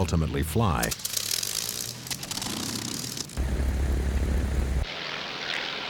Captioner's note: plane engines running